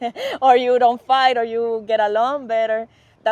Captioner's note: laughter